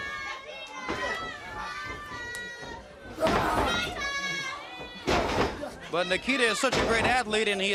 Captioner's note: crowd chatter